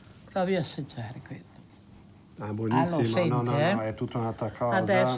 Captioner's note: speaks in foreign language